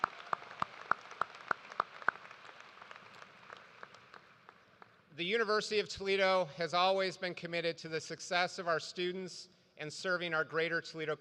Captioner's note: cheers and applause